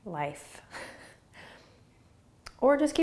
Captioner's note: laughing